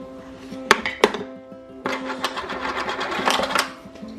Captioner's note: toys clanking